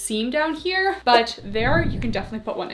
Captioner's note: screen whooshing